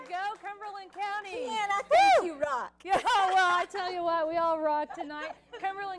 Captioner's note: cheers